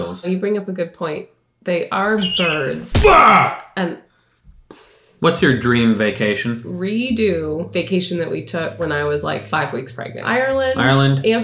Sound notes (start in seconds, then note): 2.0 eagle screeching; 2.1 yelling